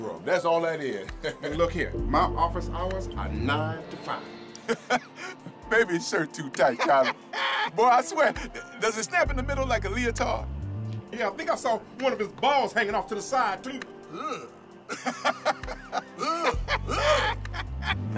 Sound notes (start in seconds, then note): 1.2 chuckles; 6.6 laughing; 14.8 laughing